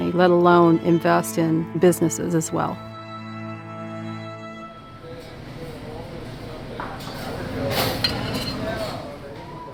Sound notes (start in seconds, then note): 4.7 customers chatting